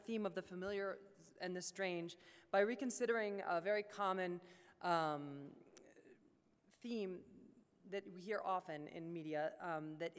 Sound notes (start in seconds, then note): none